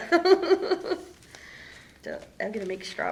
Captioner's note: laughter